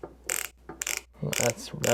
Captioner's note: ratchet noises